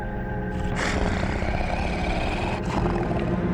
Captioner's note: snarling